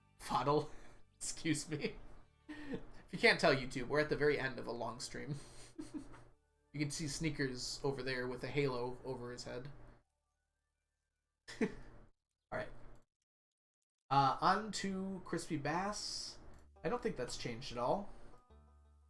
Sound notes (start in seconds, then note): 1.8 laughs; 5.4 chuckles; 9.9 chuckles